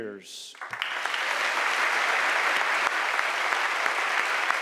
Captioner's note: audience applauding